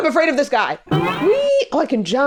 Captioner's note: boing